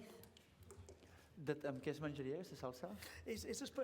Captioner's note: non-english speech